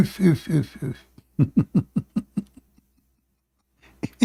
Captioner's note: Ketawa